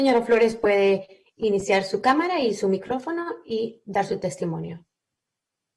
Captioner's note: speaking spanish